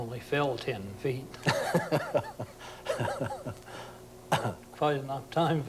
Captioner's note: laughs